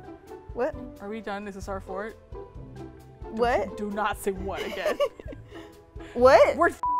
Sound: laughs

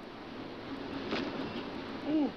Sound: body thuds

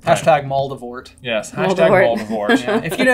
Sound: laughing

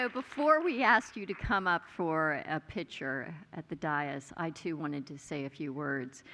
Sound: applause

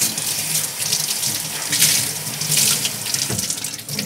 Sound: water running

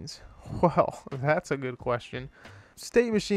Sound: laughs

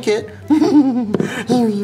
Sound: chuckles

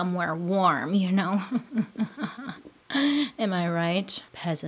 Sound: laughs sarcastically

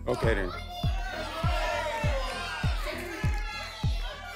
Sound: audience shouting numbers

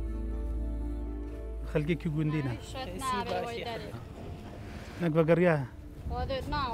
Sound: people speaking in foreign language

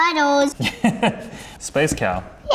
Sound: chuckles

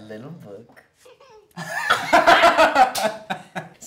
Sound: Ally’s character laughs on screen

